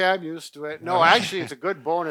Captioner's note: chuckles